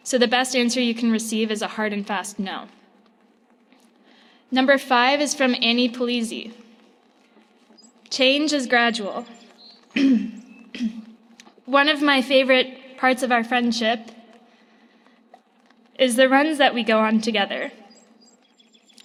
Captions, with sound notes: So the best answer you can receive is a hard and fast "No." Number five is from Annie Palisse, "Change is gradual." (clears throat) One of my favorite parts of our friendship is the runs that we go on together,